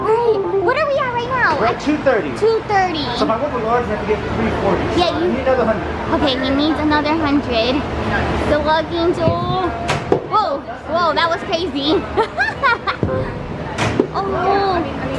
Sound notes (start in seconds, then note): 12.1 laughter